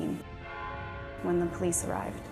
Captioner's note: bell chimes